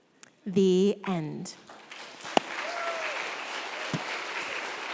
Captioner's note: crowd clapping